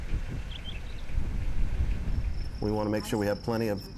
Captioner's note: bird chirping